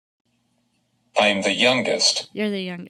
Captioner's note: voiceover